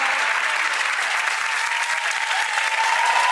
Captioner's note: applause